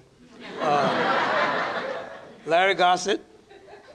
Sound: laughter

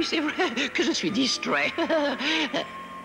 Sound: chuckles nervously

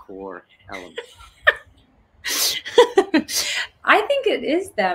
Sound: laughing

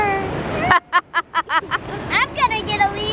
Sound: laughing

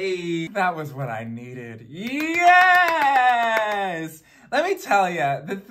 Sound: claps

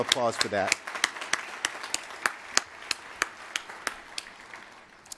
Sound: applause

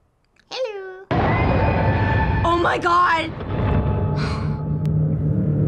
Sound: dramatic music; sighs

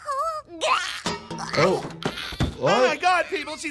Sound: child gags

